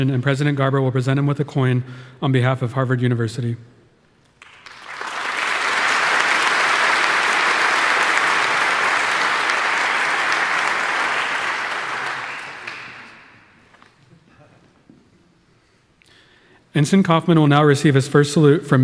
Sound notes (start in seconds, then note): 4.8 audience applauding